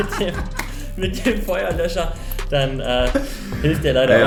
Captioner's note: both laughing